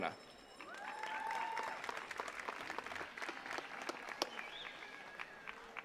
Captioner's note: attendees cheering and clapping